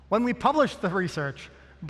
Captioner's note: none